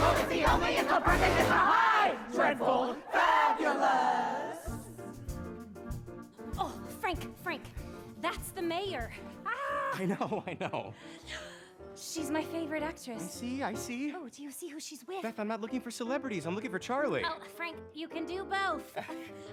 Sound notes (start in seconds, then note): 9.5 exclaims; 11.2 gasps